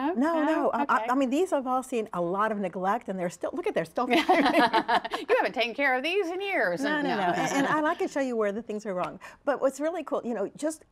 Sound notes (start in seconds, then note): 7.1 laughter